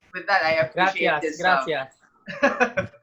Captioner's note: in Spanish